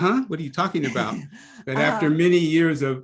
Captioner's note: laugh